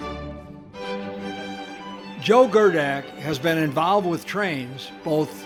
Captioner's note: voiceover